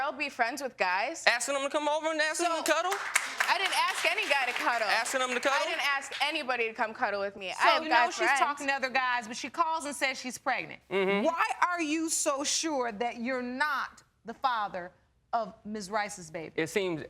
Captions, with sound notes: Can't a girl be friends with guys? Asking 'em to come over and asking 'em to cuddle? (AUDIENCE CLAPPING) I didn't ask any guy to cuddle. Asking 'em to cuddle? I didn't ask anybody to come cuddle with me. I've guy friends. So, now she's talking to other guys, but she calls and says she's pregnant? Mmm-hmm. Why are you so sure that you're not the father of Ms. Rice's baby?